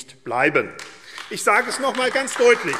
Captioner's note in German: Beifall AfD